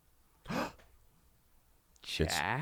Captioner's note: gasps